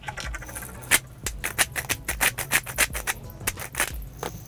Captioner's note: grinder clicking